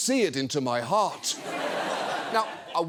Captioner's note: audience laughs